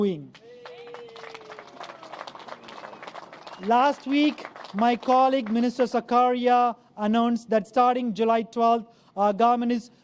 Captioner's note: applause